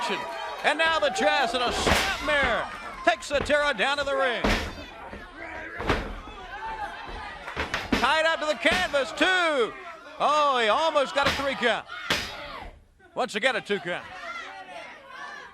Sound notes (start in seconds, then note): 6.1 crowd chatter; 15.2 crowd chatter